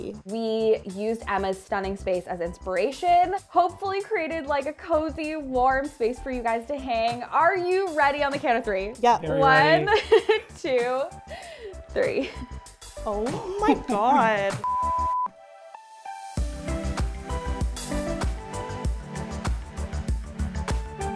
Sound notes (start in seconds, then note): 9.4 giggles; 14.6 beep; 16.3 upbeat music